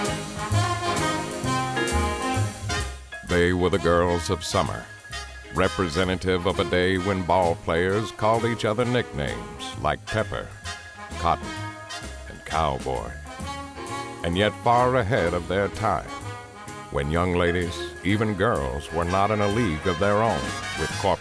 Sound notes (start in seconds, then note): 3.4 voiceover